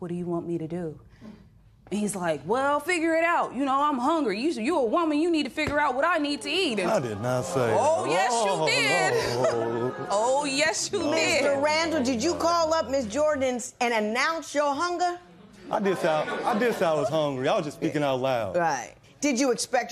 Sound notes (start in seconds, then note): 7.6 spectators murmuring; 15.7 laughter